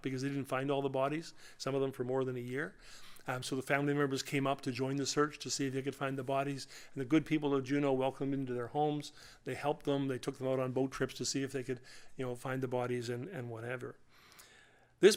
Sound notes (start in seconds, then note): none